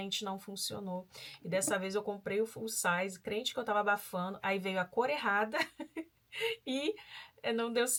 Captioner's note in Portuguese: risadas